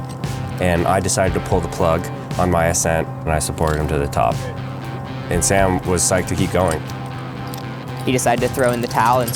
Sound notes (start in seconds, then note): 2.4 upbeat music; 3.3 metal clanking; 6.6 upbeat music